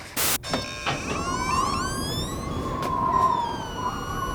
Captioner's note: door creaking, wind whistling